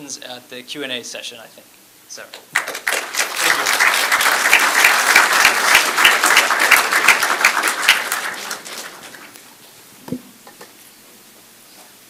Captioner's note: applause